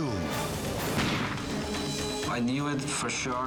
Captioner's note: gun firing